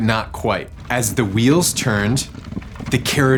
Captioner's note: carriage wheels rumbling